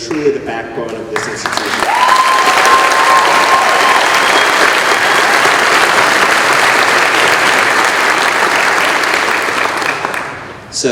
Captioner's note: cheering